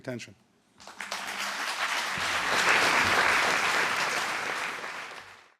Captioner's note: applause